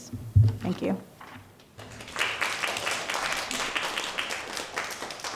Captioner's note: audience applauding